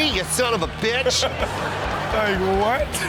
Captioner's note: audience laughs